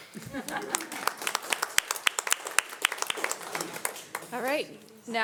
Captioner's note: audience applauding